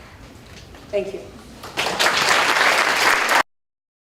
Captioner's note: applause